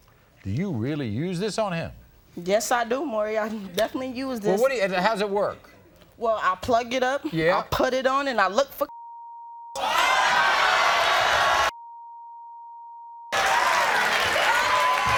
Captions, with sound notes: Do you really use this on him? - Yes I do Maury, I definitely use this. - How's it work. - Well, I plug it up, I put it on and I look for (beep). (audience cheers) (beep)